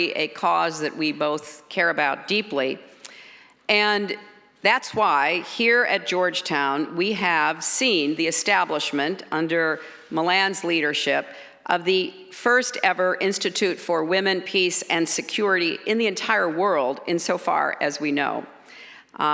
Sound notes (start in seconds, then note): none